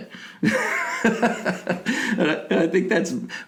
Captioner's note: laughing